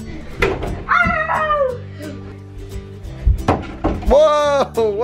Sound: shouts

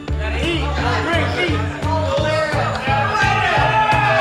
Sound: audience chattering

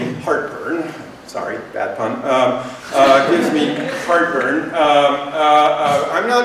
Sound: laughter

